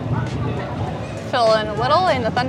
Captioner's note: thunder rolls